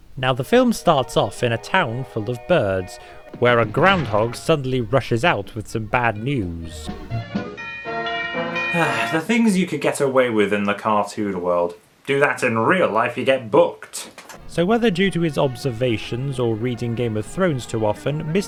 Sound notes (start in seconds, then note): 7.5 bell rings; 8.7 sighs